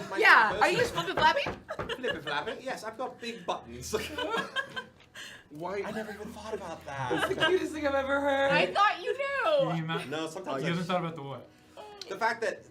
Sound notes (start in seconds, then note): 3.8 laughter